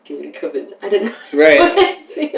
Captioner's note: laughter